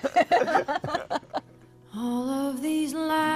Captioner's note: laughter